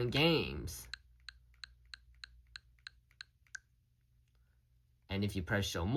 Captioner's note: scrolling sounds